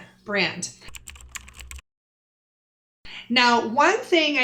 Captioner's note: typing